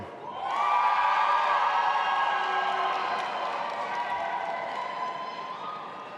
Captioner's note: audience applauding and cheering